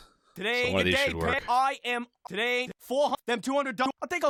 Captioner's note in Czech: zvuky různých dialogů